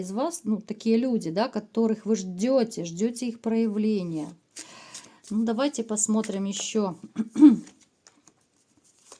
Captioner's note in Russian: откашливается